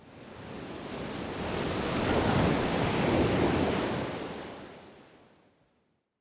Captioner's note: waves crashing